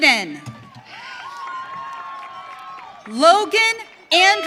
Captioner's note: audience cheering